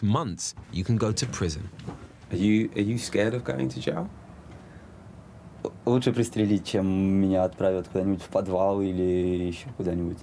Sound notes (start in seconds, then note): 5.4 speaking in foreign language